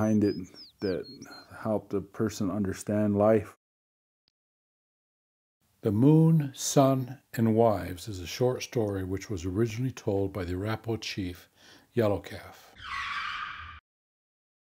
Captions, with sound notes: that how the person understand life. - The Moon, Sun, and Wives is a short story which was originally told by the Arapaho chief Yellow Calf. (tires screeching)